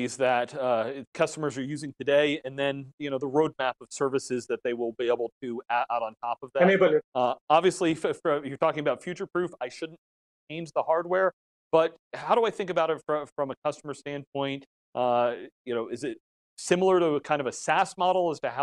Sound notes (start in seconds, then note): 6.5 murmurs